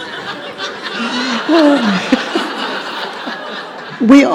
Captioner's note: audience and Katie laugh